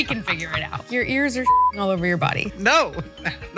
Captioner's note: beep